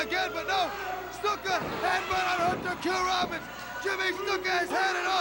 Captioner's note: crowd chatter; crowd cheering